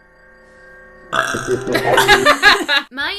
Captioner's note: burp; devil noise